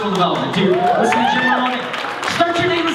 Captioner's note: cheering